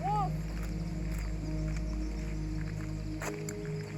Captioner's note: birds chirping